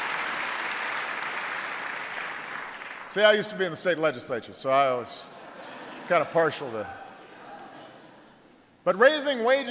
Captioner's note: applause; laughter